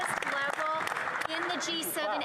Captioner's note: applause